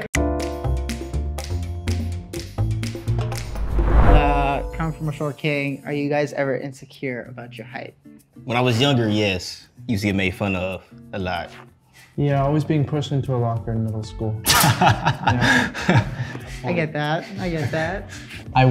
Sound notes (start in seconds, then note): 0.1 jazzy music; 3.2 air whooshing